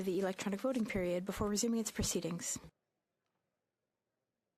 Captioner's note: speaking French